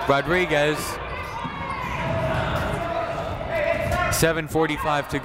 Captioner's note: people shouting in the crowd